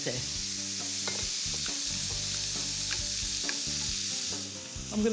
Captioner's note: onions sizzling in the pan